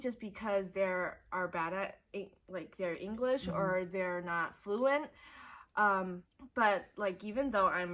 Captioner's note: in foreign language